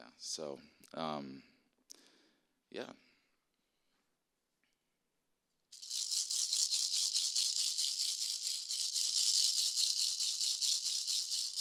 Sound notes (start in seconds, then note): 5.8 rattling